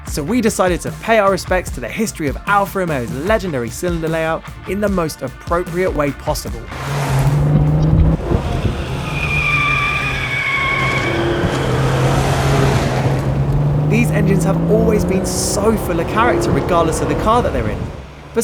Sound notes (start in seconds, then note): 11.8 V6 noises